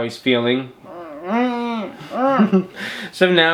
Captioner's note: humming